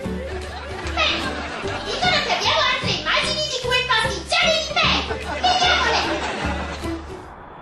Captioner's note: laughter